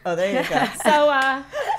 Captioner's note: laughing